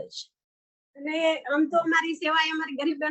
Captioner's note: non-english speech